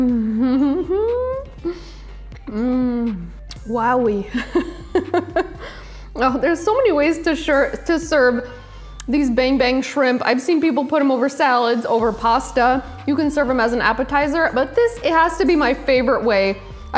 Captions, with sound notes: Mm! Wowie. (laughs) There's so many ways to serve these bang bang shrimp. I've seen people put them over salads, over pasta. You can serve them as an appetizer, but this, it has to be my favorite way.